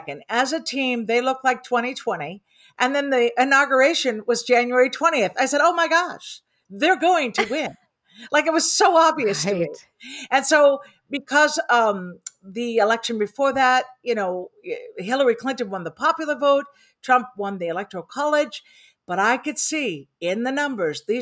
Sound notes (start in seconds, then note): 7.3 laughs